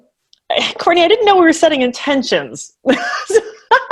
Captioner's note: laughs